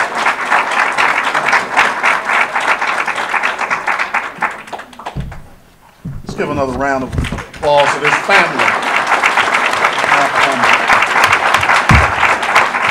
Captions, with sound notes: - Let's give another round of applause for this family. (audience applause)